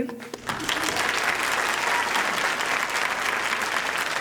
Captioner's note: audience applauding